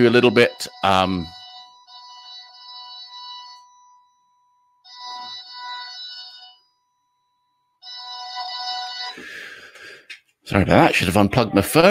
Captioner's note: phone noise in background